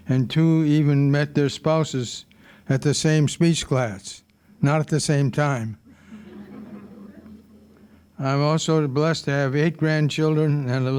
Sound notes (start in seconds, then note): 6.1 audience laughing